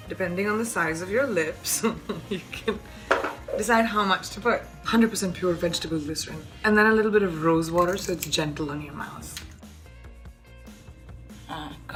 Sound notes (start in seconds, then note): 1.8 chuckling; 9.9 upbeat music